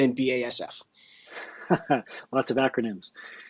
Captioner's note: laughing